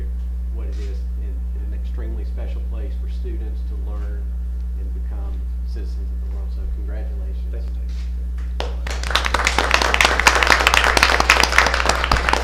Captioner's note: applause